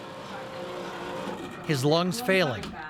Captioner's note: hydraulics whirring